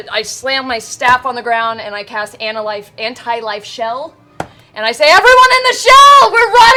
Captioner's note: shouts